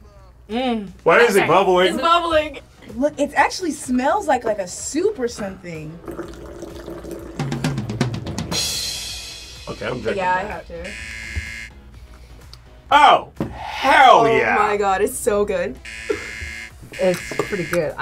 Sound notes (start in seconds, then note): 5.9 Slurm fizzes; 7.3 upbeat drum solo; 10.8 buzzer rings; 15.8 buzzer rings